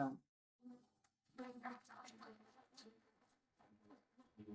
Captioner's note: applause